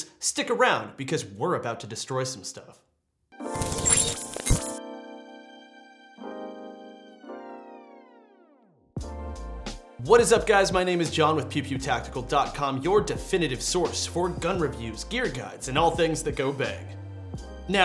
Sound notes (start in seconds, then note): 3.4 mellow music; 3.5 electronic beeping